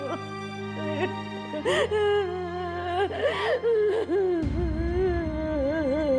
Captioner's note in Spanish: sollozos